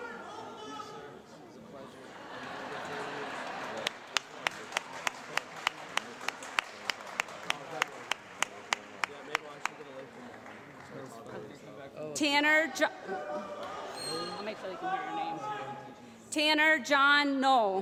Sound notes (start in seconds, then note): 2.0 laughter